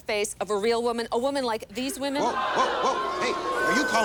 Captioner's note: booing